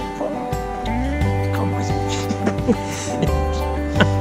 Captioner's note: laught